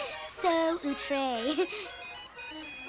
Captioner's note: cell phone ringing